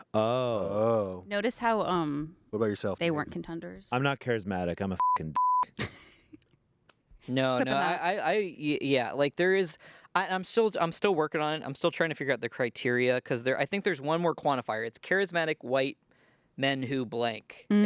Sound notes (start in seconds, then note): 5.0 beep; 7.4 laughs